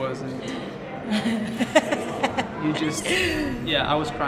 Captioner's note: laughing